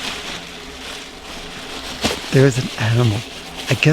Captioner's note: rustling